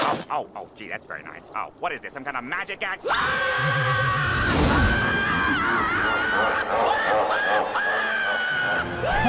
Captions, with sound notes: Oh, oh, gee, that's very nice. Oh, what is this, some kind of magic act? [screaming]